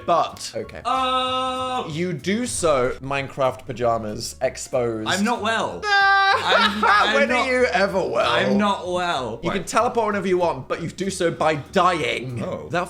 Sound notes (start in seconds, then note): 0.8 Phil vocalizes; 5.8 Dan laughs